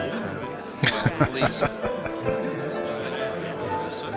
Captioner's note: laughing